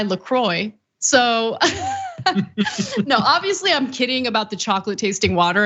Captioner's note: laugh